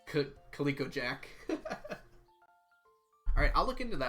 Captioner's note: laughs